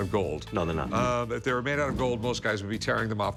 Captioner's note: none